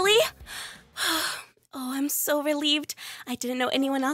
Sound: deep breath

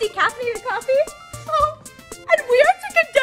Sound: sobs

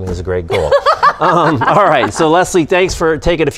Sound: cumulative laughing

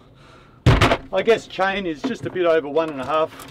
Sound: thud

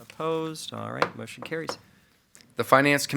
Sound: gavel pounds

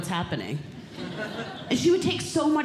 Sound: audience Laughing

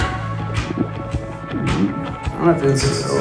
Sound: stomach gurgling sounds

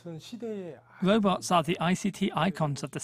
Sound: Korean

